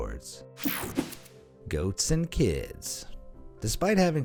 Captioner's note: air whooshing